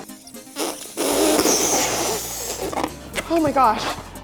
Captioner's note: lips flapping; balloon rubber stretching